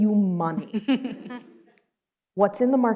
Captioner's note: laughs